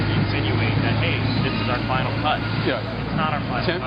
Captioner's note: voiceover